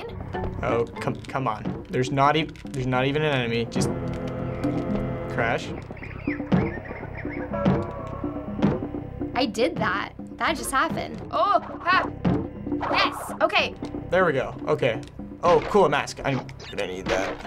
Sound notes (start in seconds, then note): 5.6 exotic bird tweeting